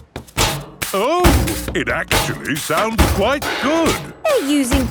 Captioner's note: rhythmic clanging